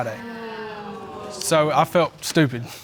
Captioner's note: audience exclaiming